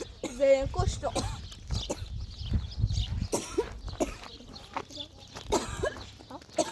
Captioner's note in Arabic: سعال